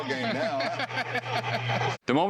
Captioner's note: laughter